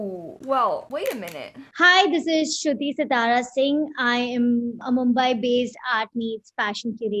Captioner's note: speaking in video